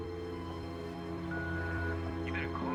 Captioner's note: beeps